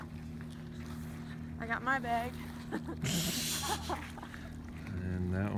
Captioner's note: lauging